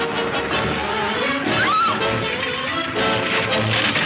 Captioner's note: Mary screams